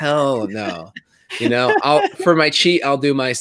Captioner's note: laughs